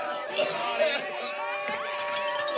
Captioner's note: coughing; glass breaking